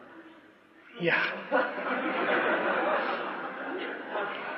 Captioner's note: laughter